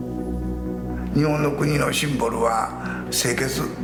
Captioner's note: speaking japanese